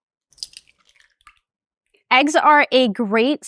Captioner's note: eggs cracking